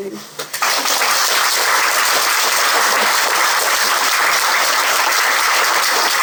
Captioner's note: applause